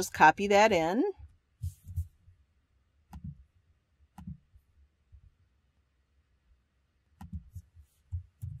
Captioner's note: pause